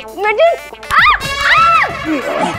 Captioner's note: Screams